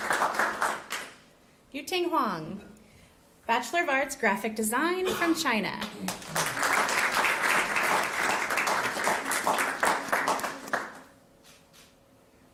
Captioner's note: applause